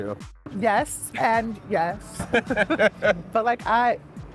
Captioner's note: laughs